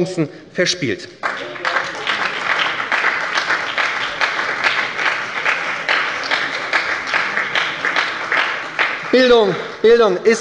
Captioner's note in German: Beifall bei der SPD